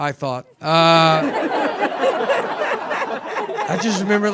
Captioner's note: audience laughing